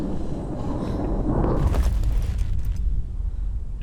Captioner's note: breathing grows weaker; thud